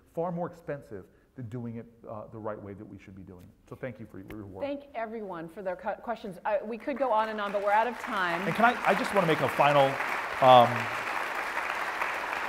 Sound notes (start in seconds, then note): 7.0 applause